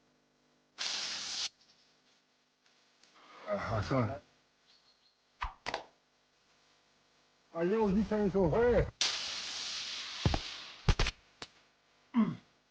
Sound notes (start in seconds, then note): 8.8 electric shock